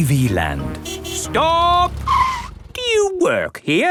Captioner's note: tires screeching